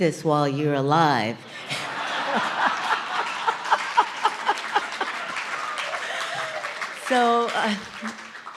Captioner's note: laughter & Applause & Cheering